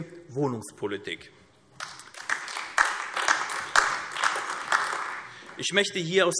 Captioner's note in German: Beifall AfD